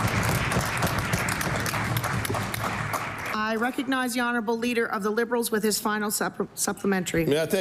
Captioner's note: applause